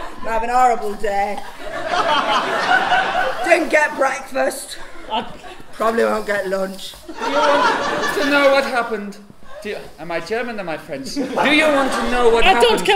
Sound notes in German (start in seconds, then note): 7.2 Deutsch-Französischer Akzent; 11.3 Französischer Akzent